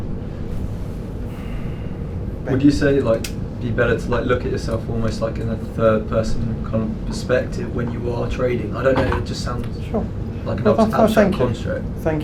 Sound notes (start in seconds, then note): 1.2 sighs